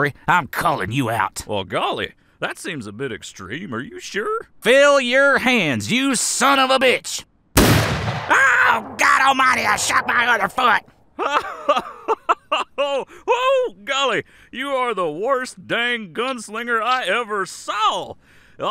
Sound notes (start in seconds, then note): 7.5 gunshot; 11.1 Sheriff laughing